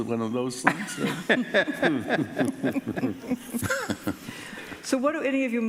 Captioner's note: laughing